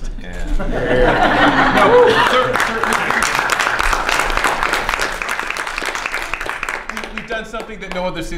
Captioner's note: laughter and applause